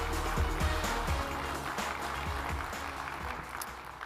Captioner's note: applause